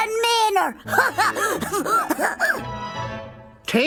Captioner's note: chuckling